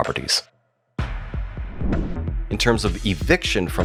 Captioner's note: air whooshes